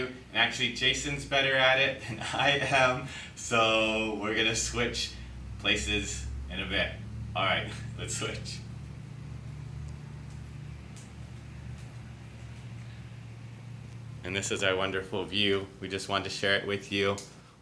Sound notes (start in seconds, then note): 2.0 laughs